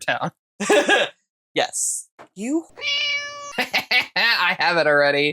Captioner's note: meow